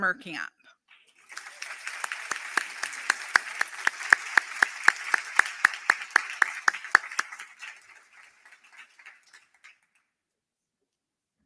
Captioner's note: applause